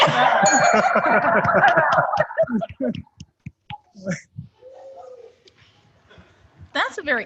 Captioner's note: rang the bell